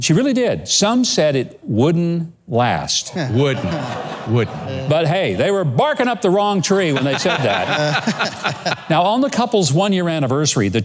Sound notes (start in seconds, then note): 3.1 laughs; 6.9 laughs